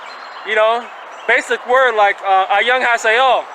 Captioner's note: speaking foreign language